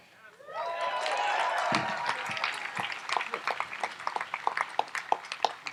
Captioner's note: audience applauds and cheers